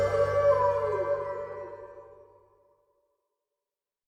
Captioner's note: wolf howling